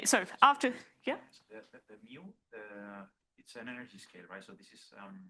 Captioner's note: student mumbling